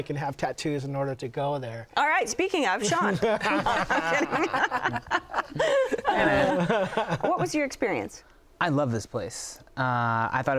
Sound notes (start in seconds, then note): 2.9 laughter